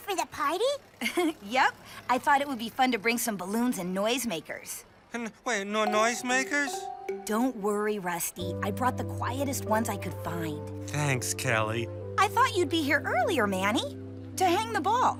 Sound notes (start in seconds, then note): 1.0 chuckles; 6.7 nervous stammer